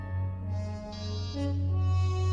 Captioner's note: door buzzer